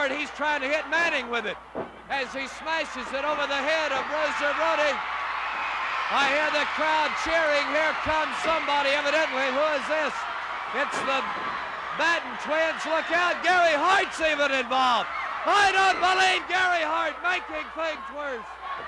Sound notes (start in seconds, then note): 7.1 crowd cheering